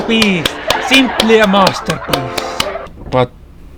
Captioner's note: clapping